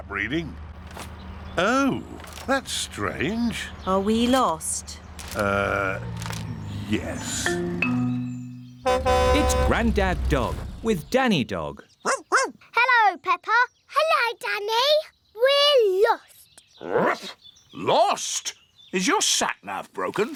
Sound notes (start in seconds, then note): 8.7 horn honks; 12.0 barking; 16.2 barks